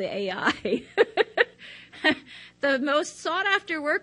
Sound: laughs

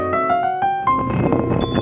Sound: table scrapes against floor

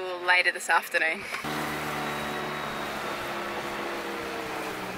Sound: motor growling

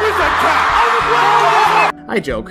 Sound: all shouting

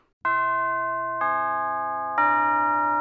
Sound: school bell rings

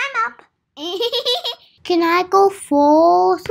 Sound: chuckles

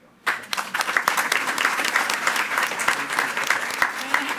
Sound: attendees clapping

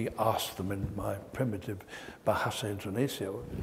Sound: indonesian dialect

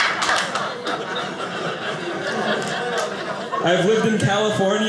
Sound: audience laughing

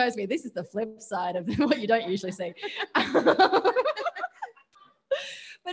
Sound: laughs

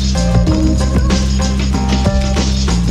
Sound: none

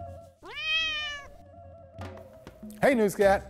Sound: cat meowing

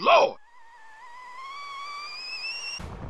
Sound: teapot whistling

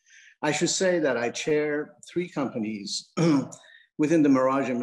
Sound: clears throat

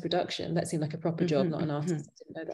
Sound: chuckling

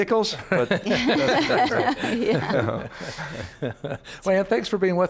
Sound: all laughing

